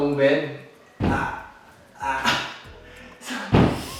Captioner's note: grunts